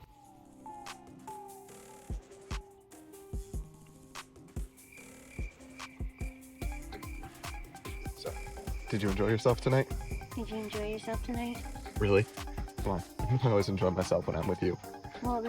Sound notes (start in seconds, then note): 0.7 upbeat music; 5.8 insects chirping